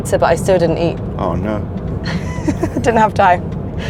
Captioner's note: laughs